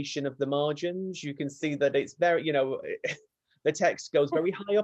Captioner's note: laughs